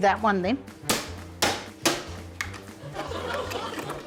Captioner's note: hammer bangs; laughter